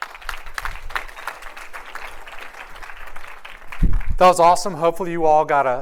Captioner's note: applause